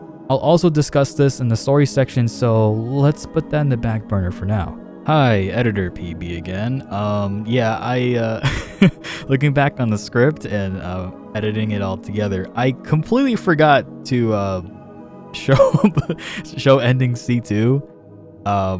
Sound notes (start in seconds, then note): 8.4 laugh